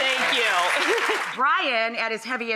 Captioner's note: audience applauding; laughing